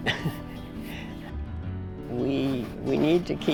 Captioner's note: chuckles